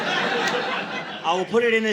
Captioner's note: audience laughing